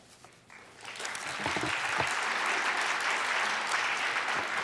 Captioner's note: audience applauds